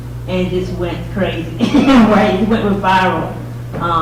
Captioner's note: laughs